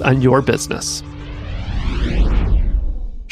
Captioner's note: whooshing